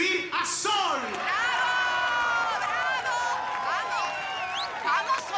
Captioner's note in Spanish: Arengas del público